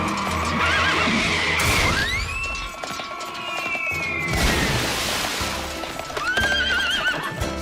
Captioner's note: horse neighs; neighs